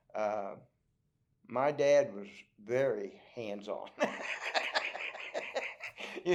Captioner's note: laughs